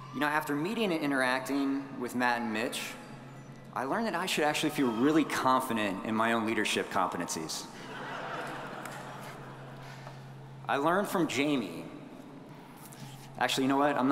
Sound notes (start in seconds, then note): 7.7 audience chuckling